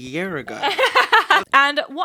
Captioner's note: laughing